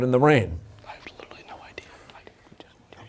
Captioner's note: whispering